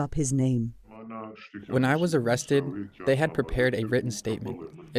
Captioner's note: through translator